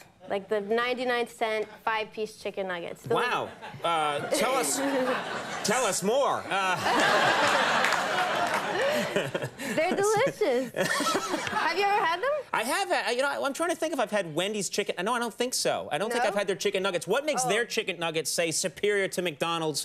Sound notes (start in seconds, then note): 6.8 audience laughing